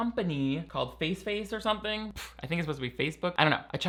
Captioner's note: scoffs